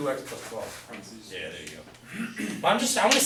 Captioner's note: voiceover